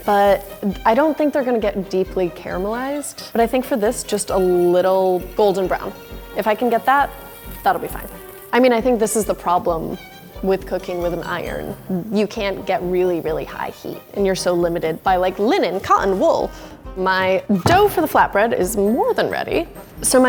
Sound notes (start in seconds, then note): none